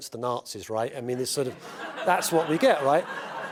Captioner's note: laugh